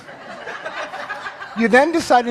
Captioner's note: audience laughing